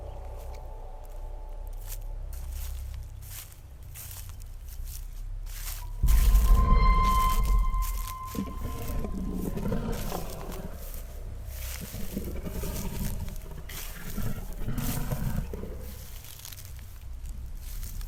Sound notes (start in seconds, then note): 0.0 suspenseful music; 2.3 footsteps pattering; 9.2 wolf growling